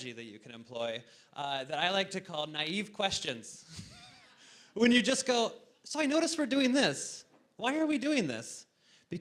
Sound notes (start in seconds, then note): 3.7 laughs